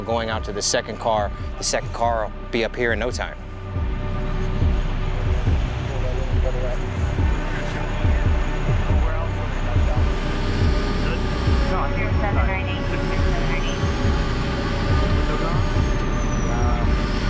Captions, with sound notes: going out to the second car. The second car will be up here in no time. (suspenseful music) (overlapping chatter)